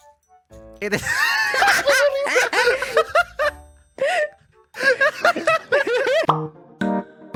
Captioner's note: laughter